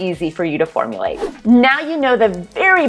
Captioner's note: whoosh